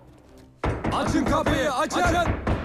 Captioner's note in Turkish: Kapı vurulma sesi